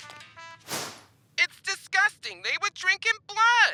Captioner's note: angry voice on phone